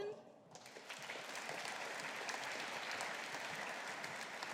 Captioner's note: audience applauding